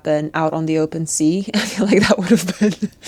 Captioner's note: speaker laughs